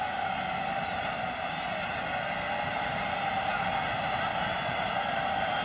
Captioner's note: cheering